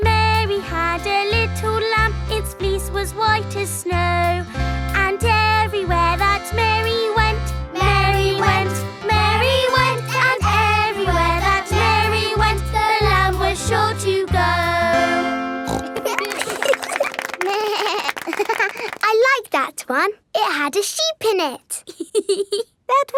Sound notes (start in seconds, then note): 15.6 snorts; 15.7 laughing; 17.5 bleats and laughs; 21.8 laughs